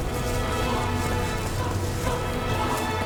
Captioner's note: running footsteps